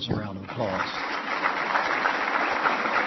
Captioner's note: applause